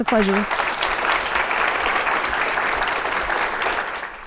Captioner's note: audience applauding